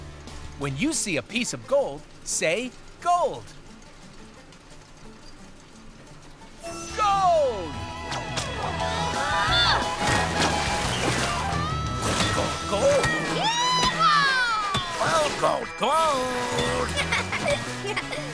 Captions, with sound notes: When you see a piece of gold, say, "Gold." Gold! [grunting] - Gold, gold, gold! - Yee-haw! Gold, gold, gold! [laughing]